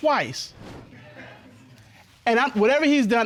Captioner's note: audience snickering